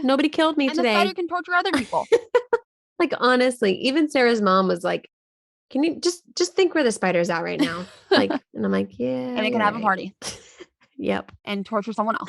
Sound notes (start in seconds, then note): 1.7 laughing